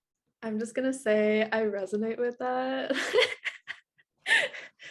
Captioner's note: laughs